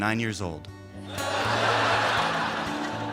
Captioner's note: laughter